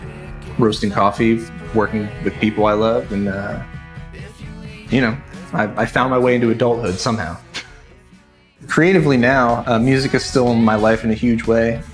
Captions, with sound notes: Roasting coffee, working with people I love, and, uh You know, I found my way into adulthood somehow (laughs) Creatively now, music is still in my life in a huge way.